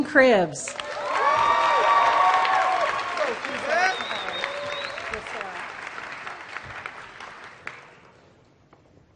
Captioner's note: applause